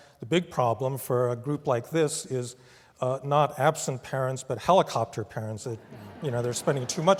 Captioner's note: laugh